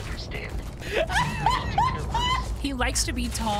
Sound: laughter

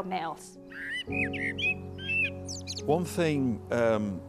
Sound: bird singing

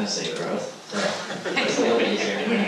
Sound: laughs

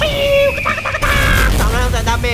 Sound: chicken sound

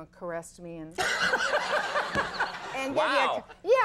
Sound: all laughing

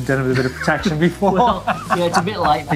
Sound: laughing

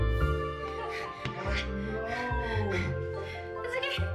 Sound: strawberry thuds; pants anxiously

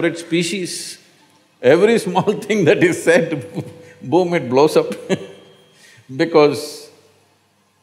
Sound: laughs

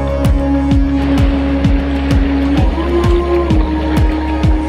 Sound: water sloshing

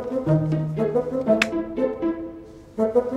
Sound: click

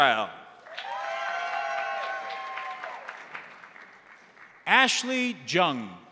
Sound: crowd applauding; crowd cheering

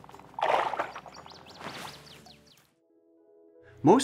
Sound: water splashing

